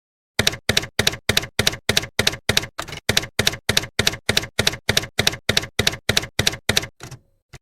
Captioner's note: typewriter keys clacking